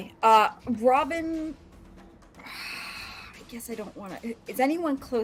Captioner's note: sighs